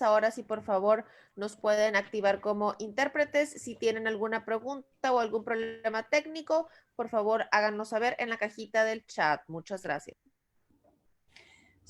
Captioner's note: Spanish